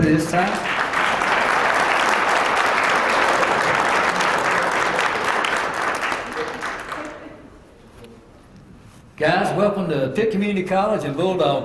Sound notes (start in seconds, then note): 2.0 applause